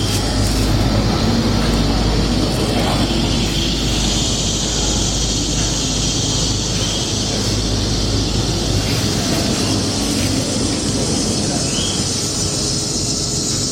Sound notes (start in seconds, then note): 2.6 background sound: birds, insects